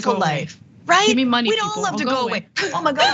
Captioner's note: laugh